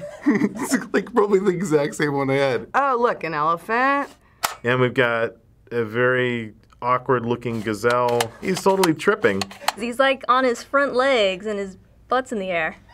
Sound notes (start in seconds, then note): 0.0 chuckling; 4.4 lever clicks; 7.9 lever clicks; 12.7 Finebros laughs